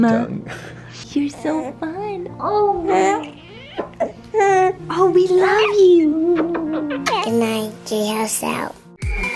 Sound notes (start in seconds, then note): 6.3 kissing; 9.0 dance music